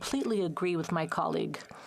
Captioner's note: speaking French